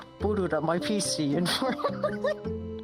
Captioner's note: laughing